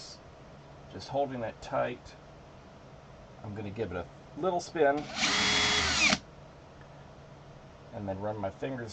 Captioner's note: drill noise